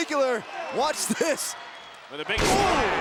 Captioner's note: laughs